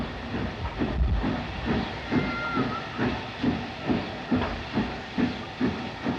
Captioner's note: train passes